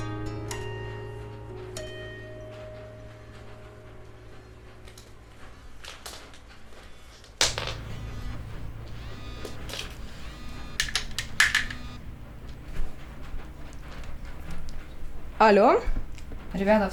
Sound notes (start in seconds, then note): 6.0 phone call